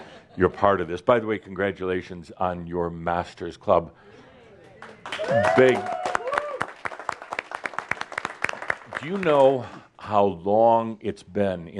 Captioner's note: audience applause